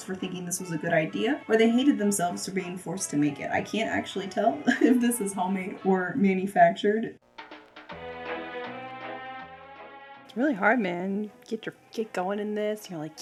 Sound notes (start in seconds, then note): 4.6 chuckles; 7.2 jazzy music